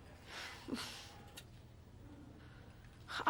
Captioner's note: menghela napas